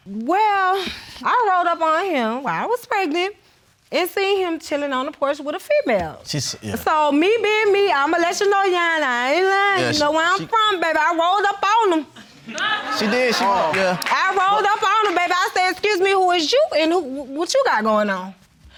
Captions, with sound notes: Well, I rolled up on him while I was pregnant and seen him chilling on the porch with a female. So me being me, I'mma let you know, Your Honor, I ain't lyin', where I'm from, baby, I rolled up on him. (AUDIENCE LAUGHS) She did. Yeah. I rolled up on him. I say, "Excuse me. Who is you and what you got going on?"